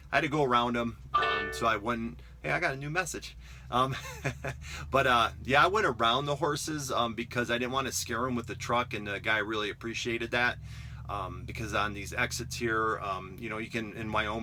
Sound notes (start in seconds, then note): 1.1 phone chimes; 3.5 laughs